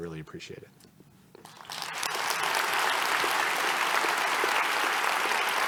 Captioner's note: applause